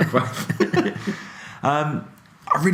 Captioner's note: laughing